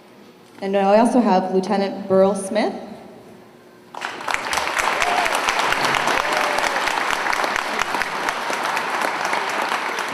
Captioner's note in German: Beifall